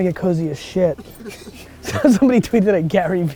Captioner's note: laughs